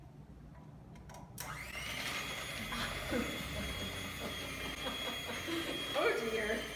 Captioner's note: laughter